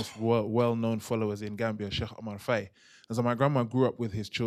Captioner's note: non-english